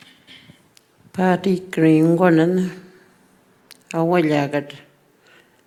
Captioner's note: speaking Anmatyerr